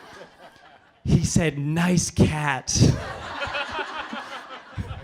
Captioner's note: laughing